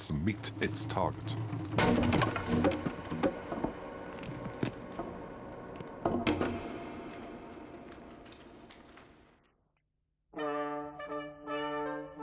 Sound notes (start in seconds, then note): 1.7 lances shatter slowly; 10.3 tudor style music